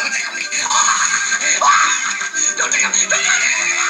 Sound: laughs

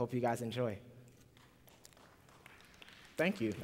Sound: applause

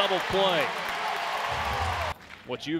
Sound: cheering

